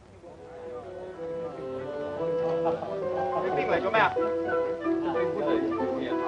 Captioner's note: soft chattering in foreign language